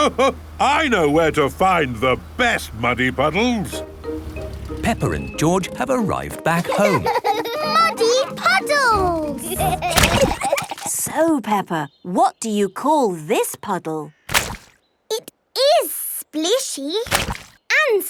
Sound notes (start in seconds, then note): 9.4 giggling